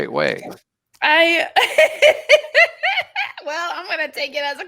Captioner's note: laughing